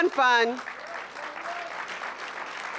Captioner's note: applause